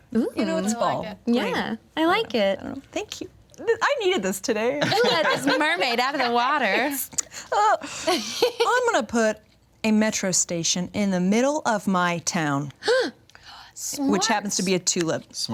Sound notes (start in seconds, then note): 6.9 all giggle